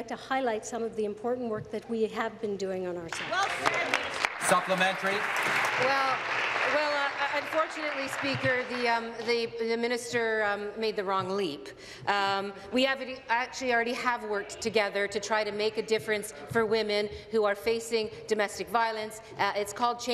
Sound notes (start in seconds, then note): 7.6 applause